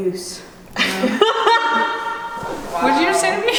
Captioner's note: laughter